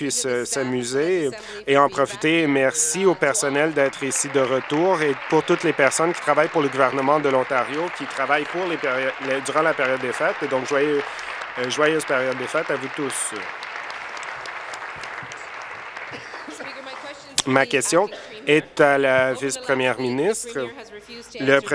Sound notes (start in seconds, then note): 7.1 applause; 13.9 applause